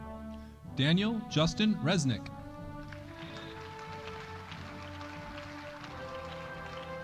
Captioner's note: audience applauding